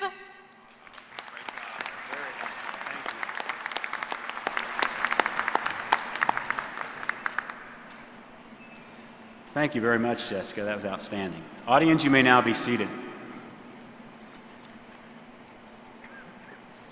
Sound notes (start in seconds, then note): 4.8 applause